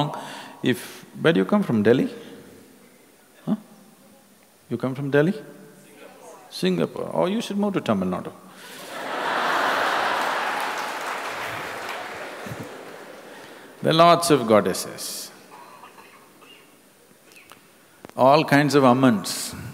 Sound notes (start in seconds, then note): 12.7 laughter